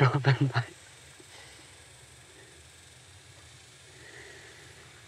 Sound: laughs chokingly

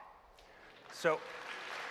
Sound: applause

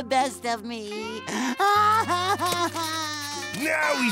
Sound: crying

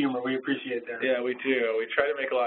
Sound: voiceover

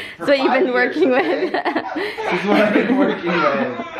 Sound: laughs

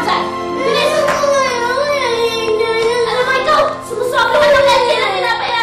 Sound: crying

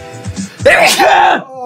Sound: aCHOOOoO

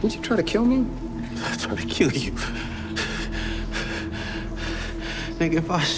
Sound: panting

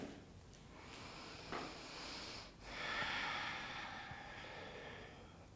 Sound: inhaling and exhaling

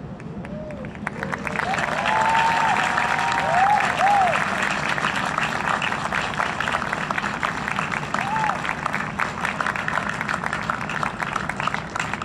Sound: audience Applause and cheering

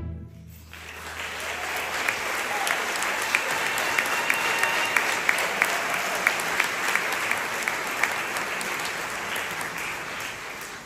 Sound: applause

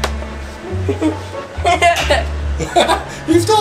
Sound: assistant laughs

